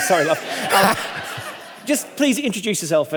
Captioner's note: all laughing